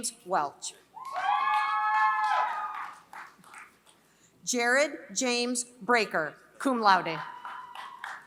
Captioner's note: applause; applause